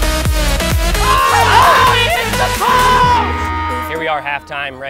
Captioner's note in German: schreie